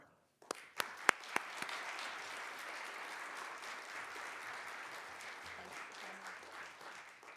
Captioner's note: applause